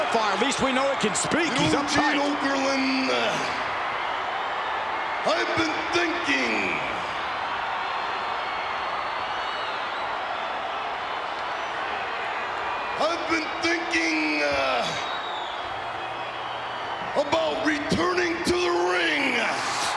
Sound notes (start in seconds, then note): 11.3 applause